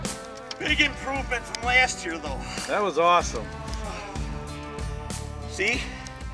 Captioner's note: sighing